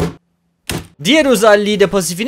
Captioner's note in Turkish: şap